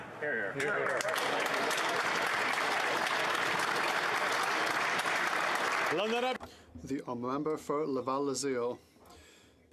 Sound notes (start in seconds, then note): 4.0 applause; 9.5 speaking in French